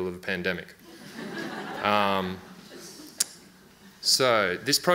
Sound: audience laughs

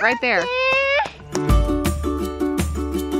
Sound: child vocalizes; upbeat music

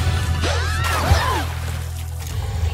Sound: splash

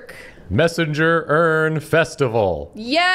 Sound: annoucer voice

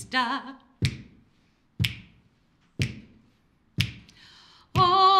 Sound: finger click x4

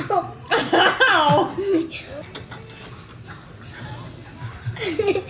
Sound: laughs

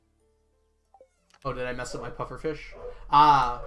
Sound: Brady barking

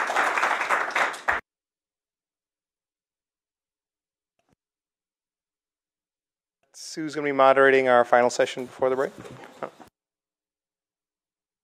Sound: applause

